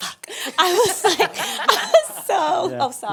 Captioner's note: laughing